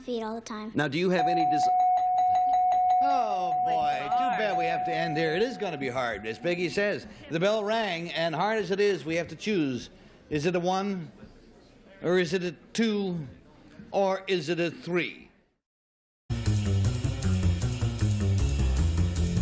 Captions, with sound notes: - I was on my own feet all the time. - Now do you have any-- [dings] - Oh, boy. Too bad we have to end here. It is going to be hard, as Peggy says. The bell rang. And hard as it is, we have to choose. Is it a one, or is it a two, or is it a three?